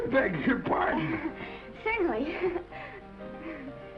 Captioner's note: laughs; gentle music